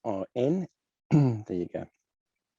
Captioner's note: clearing throat